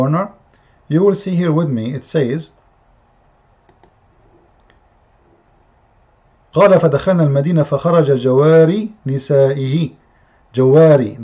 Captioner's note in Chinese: 念阿拉伯语